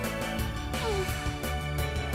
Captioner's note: sigh